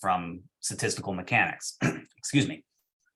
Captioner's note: coughs